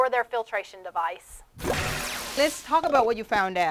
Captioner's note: swooshing Sound